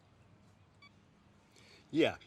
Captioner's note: phone beep